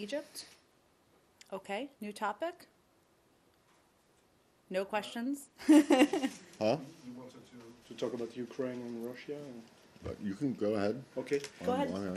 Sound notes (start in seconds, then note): 5.6 laughter